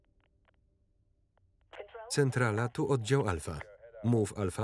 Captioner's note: radio